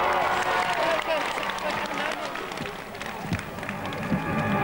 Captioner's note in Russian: апплодисменты